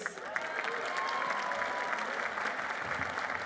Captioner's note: applause